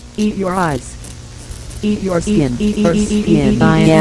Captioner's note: scratching